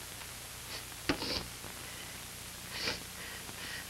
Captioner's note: she sobs